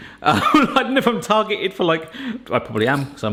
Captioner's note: laughing